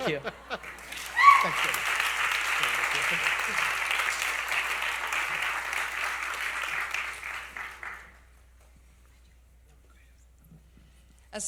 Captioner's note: applause